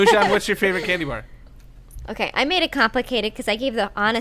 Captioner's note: laughter